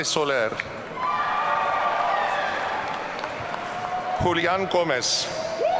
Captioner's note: audience cheering